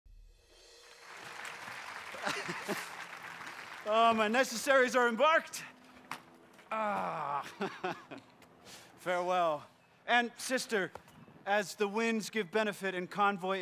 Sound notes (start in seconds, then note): 0.7 applause